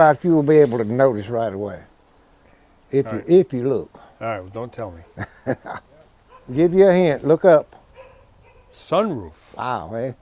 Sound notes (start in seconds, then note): 4.8 laughs